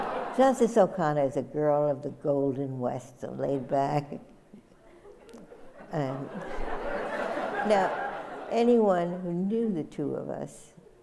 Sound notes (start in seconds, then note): 0.0 laughter; 4.8 laughter